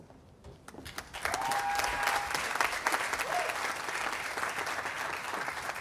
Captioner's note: audience applauding